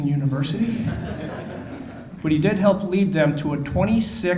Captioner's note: audience laughing